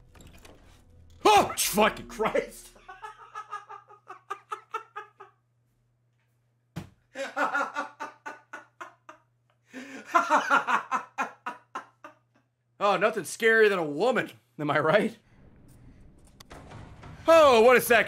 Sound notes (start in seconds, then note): 1.7 screams; 7.1 laughs